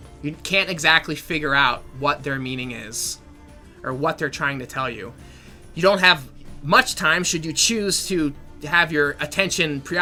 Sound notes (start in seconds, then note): none